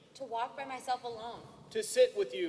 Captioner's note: speaking native language